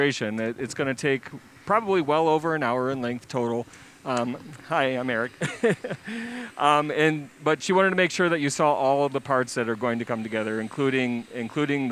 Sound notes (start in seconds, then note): 5.3 laughs